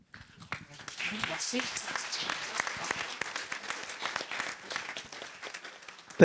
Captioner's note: applause